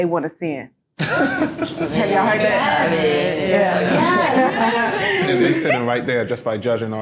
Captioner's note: group members laugh and shout in agreement